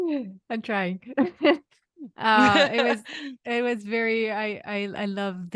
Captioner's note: laughs